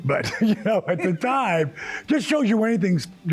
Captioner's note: laughing